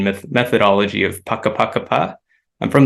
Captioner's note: non-english speech